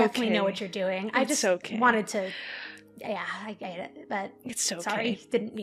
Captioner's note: stutters